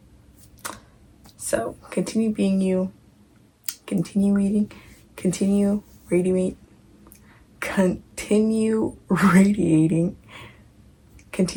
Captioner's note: mispronunciation